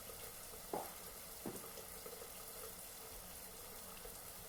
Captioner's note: faint knock